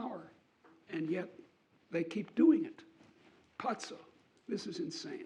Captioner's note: speaking a foreign language